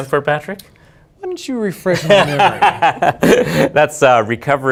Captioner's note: laughter